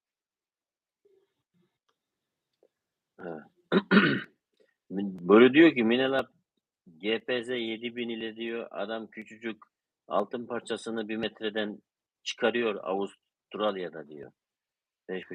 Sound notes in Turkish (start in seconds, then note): 3.6 öksürme; 3.7 boğazını temizler